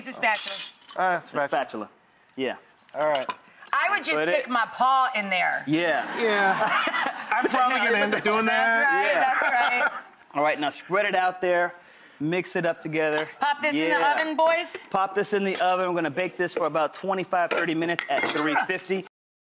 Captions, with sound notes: here use a spatula. - Or a spatula, yeah. - All right. - I would just stick my paw in there. - Yeah. - Yeah. (audience laughing) - I'm probably gonna end up doing that. - That's right, that's right. (laughing) - All right now spread it out there, mix it up together. - Pop this in the oven boys? - Pop this in the oven, we're gonna bake this for about 25-30 minutes at 350.